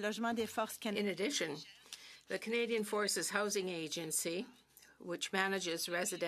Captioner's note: speaking French